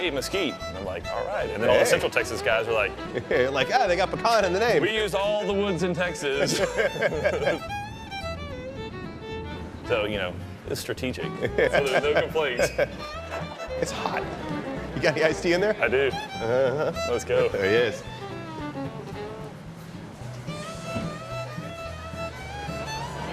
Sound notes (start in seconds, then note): 6.3 both laugh